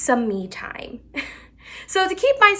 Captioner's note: chuckles